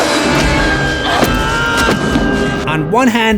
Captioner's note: screams